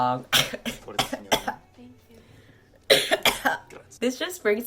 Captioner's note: 𝘴𝘤𝘰𝘧𝘧 𝘦𝘷𝘰𝘭𝘷𝘦𝘴 𝘪𝘯𝘵𝘰 𝘤𝘰𝘶𝘨𝘩𝘪𝘯𝘨